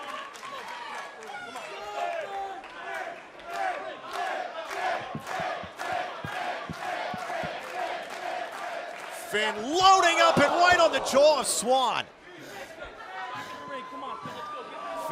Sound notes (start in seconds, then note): 3.4 fans chanting